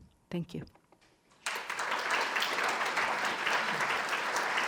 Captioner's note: crowd clapping